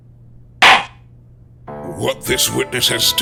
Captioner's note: gavel slams!